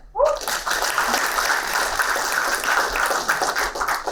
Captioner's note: applauding